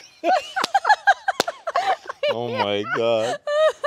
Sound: people laughing

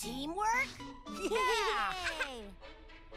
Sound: laughing

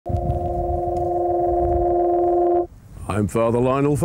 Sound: eerie high-pitched tone; eerie tone stops abruptly

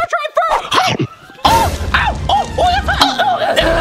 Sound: yells

